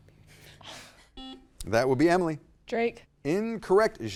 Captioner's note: buzzer dings